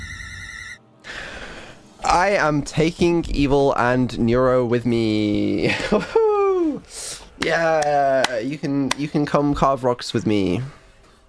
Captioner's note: inhale